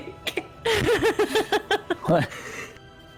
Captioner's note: giggles